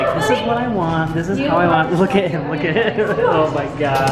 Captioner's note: laughs